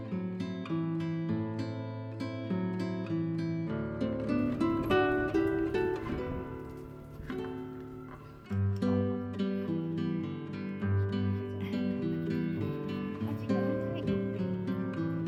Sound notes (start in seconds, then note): 9.3 laughs